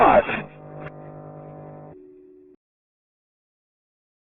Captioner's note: line buzzes